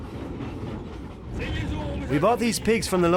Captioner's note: speaking in foreign language